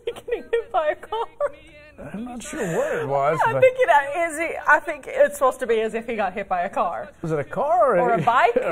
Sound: laughter

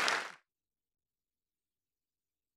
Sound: applause

